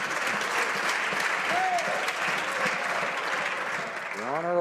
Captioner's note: some Applause